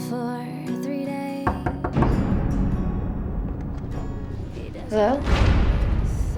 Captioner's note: hand knocking; uneasy music